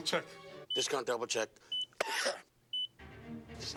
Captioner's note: cough